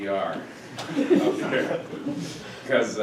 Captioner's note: audience laughing